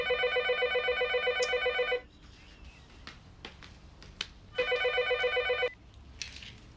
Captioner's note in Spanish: Suena el teléfono